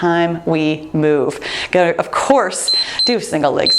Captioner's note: timer beeps